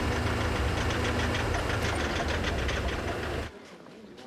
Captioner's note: engine sputters